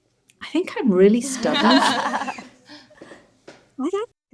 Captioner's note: panelists laughing